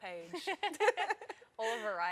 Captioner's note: laughter